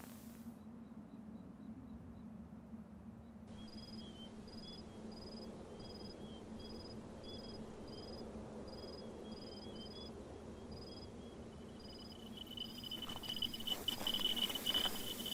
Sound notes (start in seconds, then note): 3.0 sounds of wind and birds; 12.4 sounds of Geiger counter